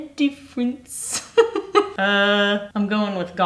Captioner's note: laughing